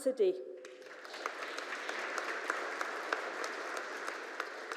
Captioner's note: audience applauding